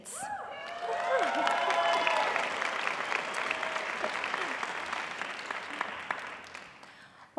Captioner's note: applause